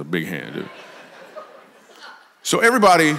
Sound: congregation laughs

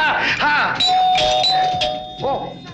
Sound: door bell rings

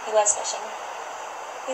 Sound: background ocean sounds

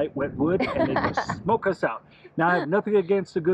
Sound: laughs

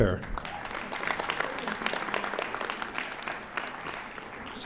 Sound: audience applauding

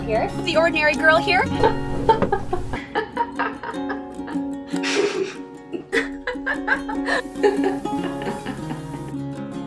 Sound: laughs

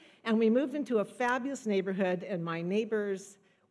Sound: none

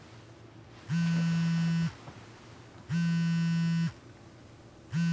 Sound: phone buzzing

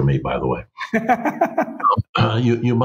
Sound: laughs

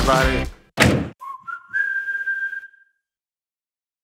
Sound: door slamming; whistling

